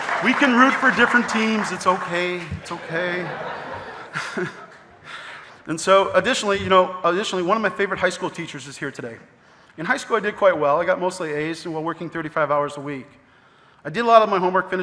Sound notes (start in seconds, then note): 0.0 audience applauding; 2.5 laughs; 3.3 audience laughing